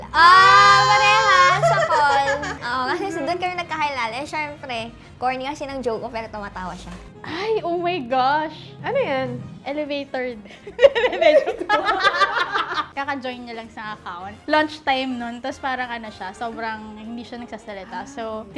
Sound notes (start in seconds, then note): 10.6 laughs